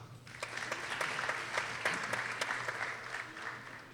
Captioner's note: people applauding